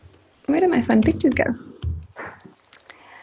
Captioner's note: humming